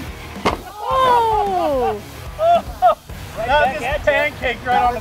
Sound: whoas and laughs

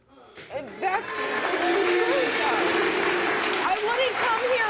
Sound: audience applauds

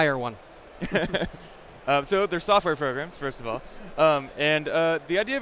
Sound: laughs

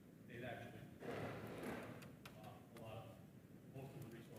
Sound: chair rattling

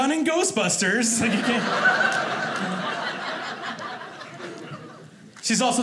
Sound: audience laughing

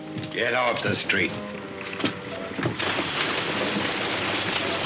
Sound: hooves clunking

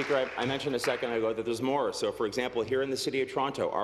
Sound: applause

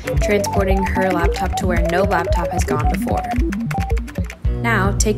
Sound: coding noises

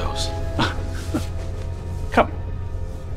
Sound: laughs

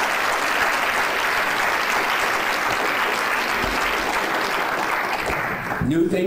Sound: clapping

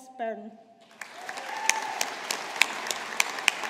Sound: audience applauding

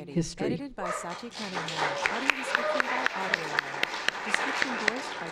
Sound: applause

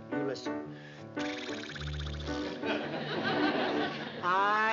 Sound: blowing sound; singing

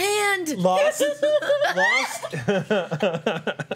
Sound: laughter

